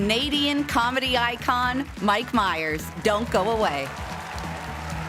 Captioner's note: cheers and applause